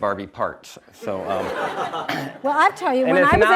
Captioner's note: audience laughs